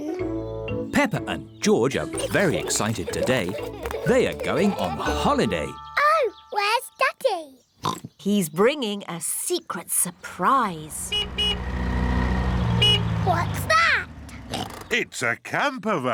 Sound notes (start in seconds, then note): 7.8 oinks; 10.9 horn honks; 14.5 oinks